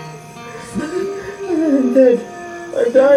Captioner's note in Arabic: يبكي